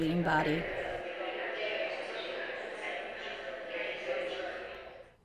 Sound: voices chattering

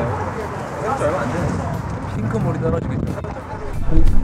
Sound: dripping

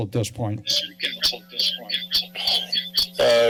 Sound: echoes

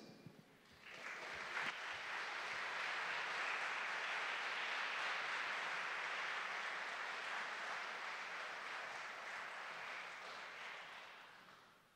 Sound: applause

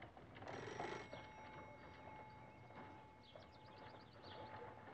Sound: doorbell ringing

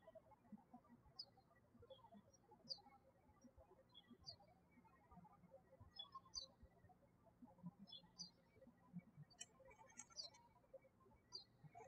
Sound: birds chirping

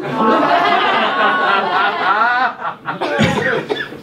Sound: audience laughs

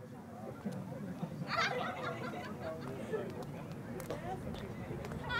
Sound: people laughing

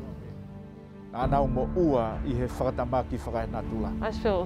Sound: tongan language and music

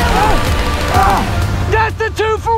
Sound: groans

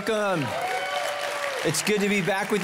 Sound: congregation clapping and cheering

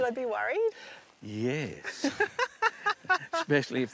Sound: laughs

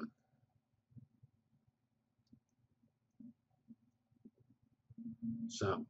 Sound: pause

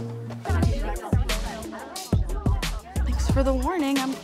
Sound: upbeat party music; girls chattering

